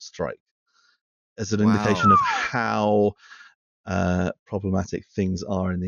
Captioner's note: whistles